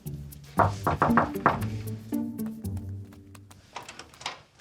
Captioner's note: knocking on door